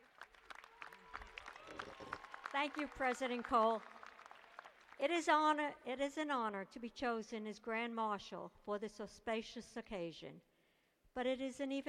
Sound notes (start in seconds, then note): 0.0 applause